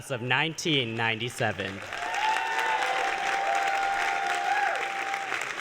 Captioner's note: applause